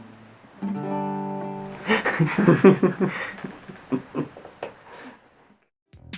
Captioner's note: laughter